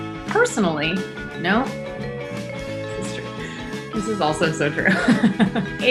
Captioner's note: laughs